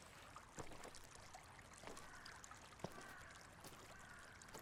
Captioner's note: water trickling